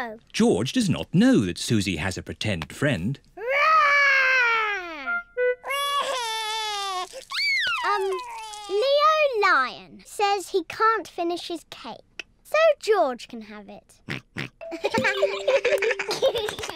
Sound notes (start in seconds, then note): 5.6 crying; 14.1 oinks; 14.7 all giggling